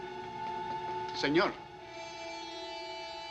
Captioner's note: man speaking spanish